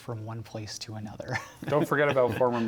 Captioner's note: laughter